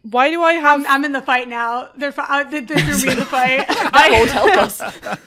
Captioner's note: laughter